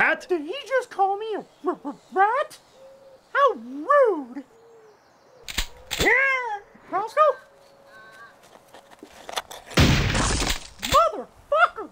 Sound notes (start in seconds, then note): 5.5 shotgun pump action; 9.8 boom